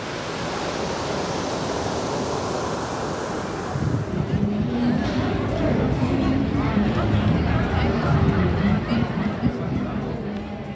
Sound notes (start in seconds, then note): 0.0 sound of waves crashing; 5.3 sound of crowded plaza